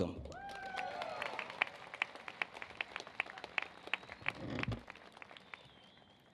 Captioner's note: applause